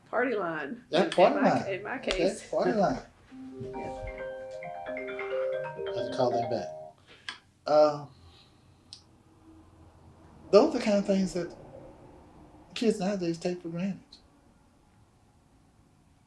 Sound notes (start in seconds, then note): 3.3 phone plays